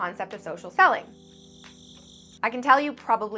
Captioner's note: crickets chirping